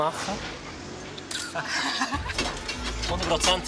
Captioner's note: laughter